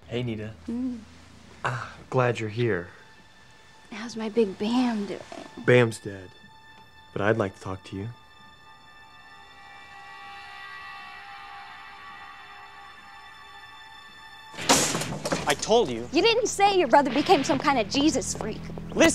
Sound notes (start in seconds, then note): 8.5 dramatic music; 14.5 door slams